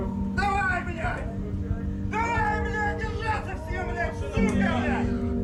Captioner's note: speaking foreign language